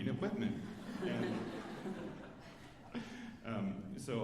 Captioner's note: alumni laughing